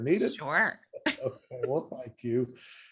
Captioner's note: laughs